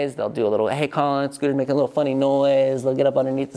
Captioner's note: none